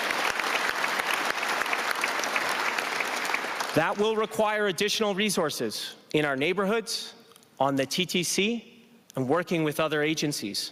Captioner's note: applause